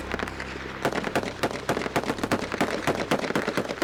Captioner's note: gunshots